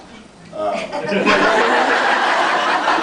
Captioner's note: laughs